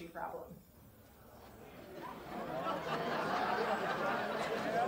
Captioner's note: crowd laughing